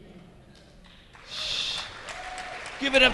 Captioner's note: audience clapping